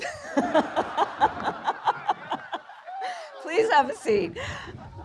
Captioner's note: laughter